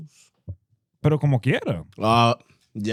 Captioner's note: speaking In Foreign Language